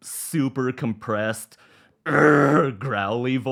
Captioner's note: grunts